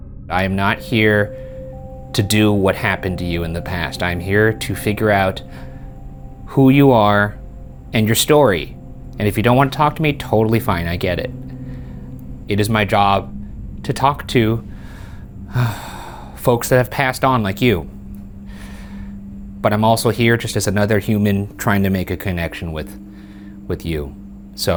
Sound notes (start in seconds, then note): 15.5 sighing